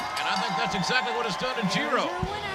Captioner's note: bell ringing